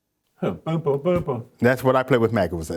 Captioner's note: hums